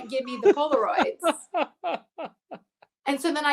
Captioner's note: laughs